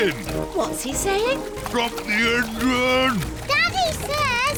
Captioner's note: splutters